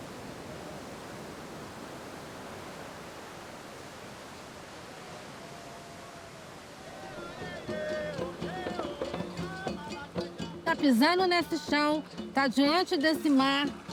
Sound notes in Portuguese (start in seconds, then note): 4.8 Vivas ao longe; 8.1 Em iorubá ao longe